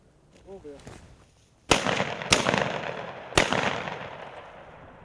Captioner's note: gunshots crack